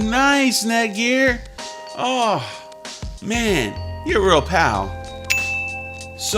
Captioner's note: ding sound